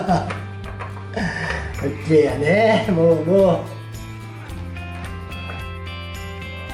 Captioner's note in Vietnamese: cười